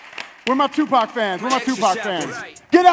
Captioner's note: light applause